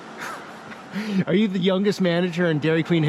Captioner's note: laughing